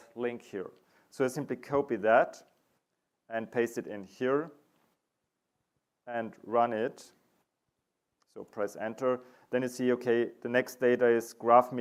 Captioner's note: audio silent